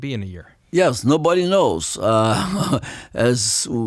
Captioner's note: laughs